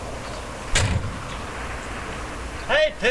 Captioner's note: wind howling; car door thudding